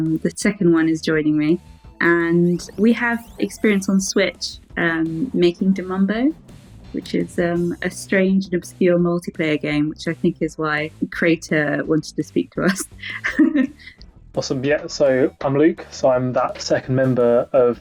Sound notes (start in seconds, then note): 12.4 laughs